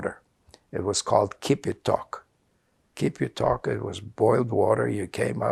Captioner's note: non-english